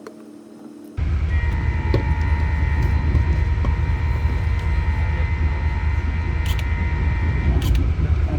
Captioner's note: long continuous blast of the trains horn